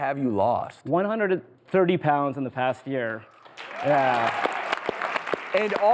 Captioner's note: audience applauding